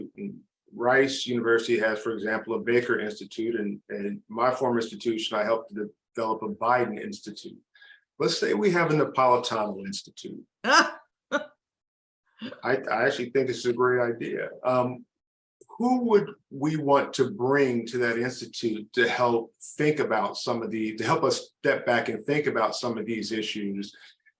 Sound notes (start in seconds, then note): 10.7 laughs